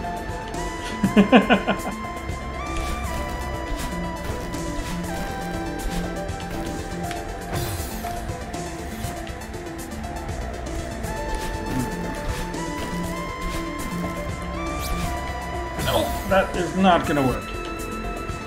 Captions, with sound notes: [chuckles] Nope! That is not gonna work.